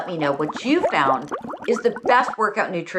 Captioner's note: bubbling notification sound goes